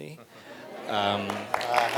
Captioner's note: chuckles; audience applauding